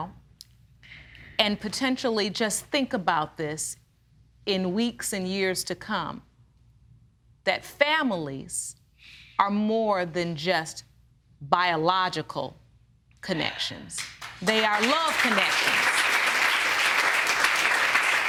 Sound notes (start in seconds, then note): 14.0 applause